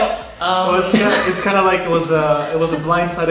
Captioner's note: laughing